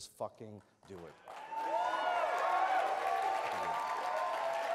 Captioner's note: audience cheers